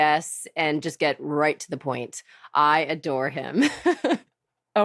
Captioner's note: laughs